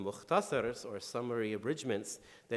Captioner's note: speaking in foreign language